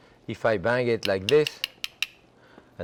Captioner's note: knife tapping